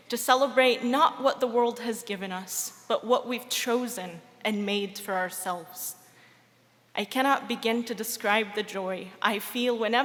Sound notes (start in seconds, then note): none